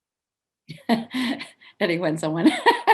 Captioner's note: laughs